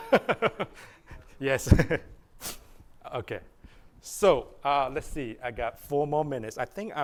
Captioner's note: laughter